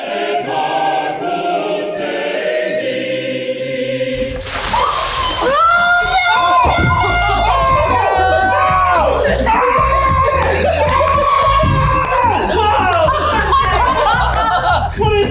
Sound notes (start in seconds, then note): 4.2 water splashing; 12.8 all laughing